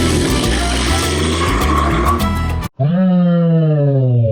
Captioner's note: engine roaring